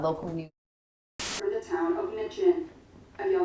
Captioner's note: camera buzzing